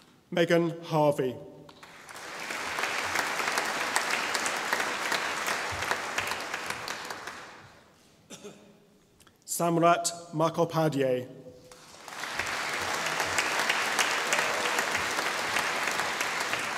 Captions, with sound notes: Megan Harvey (audience applauding) Samrat Mukhopadhyay (audience applauding)